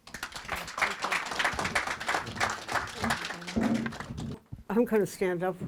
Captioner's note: audience applauding